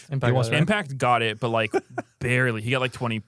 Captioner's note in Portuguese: risos